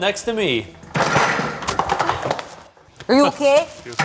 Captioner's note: items rattling